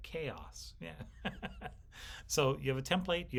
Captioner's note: laughs